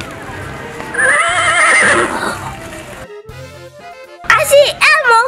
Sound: horse neighs

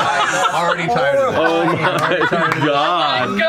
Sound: laughter

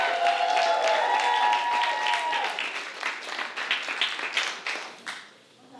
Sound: applause

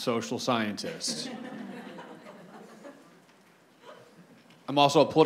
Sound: audience laughs

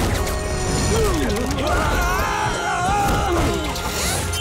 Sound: screaming

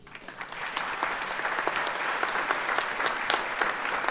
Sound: audience applauds

